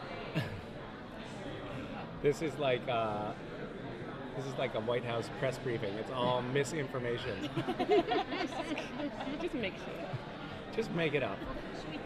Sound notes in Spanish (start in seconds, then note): 7.4 riendo